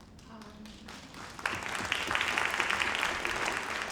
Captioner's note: audience clapping